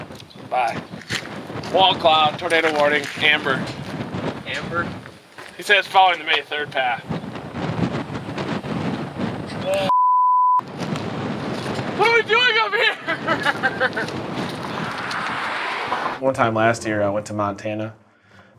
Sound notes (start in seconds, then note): 8.0 wind whooshing; 12.7 chuckles